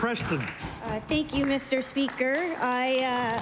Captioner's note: applause